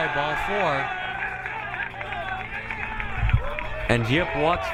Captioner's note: crowd cheering